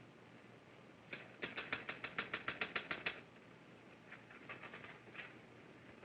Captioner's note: typewriter keys clicking